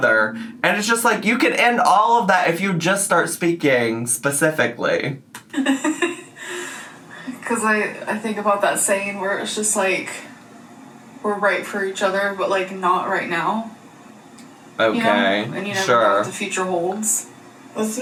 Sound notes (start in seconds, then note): 5.5 laughs